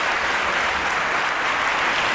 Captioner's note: applause